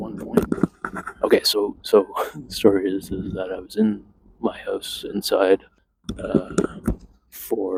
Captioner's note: chuckles